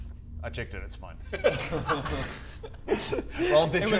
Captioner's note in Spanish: Risas